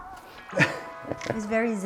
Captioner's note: chuckles